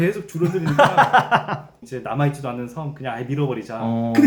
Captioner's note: laughing